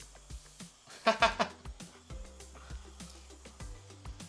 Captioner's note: laughing